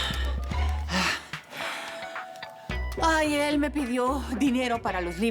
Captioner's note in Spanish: Ruido al marcar